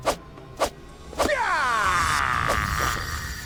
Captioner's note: ninja sounds